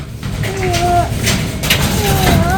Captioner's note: crying